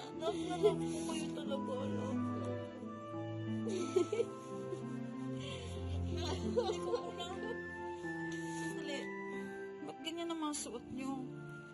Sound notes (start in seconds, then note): 3.6 giggles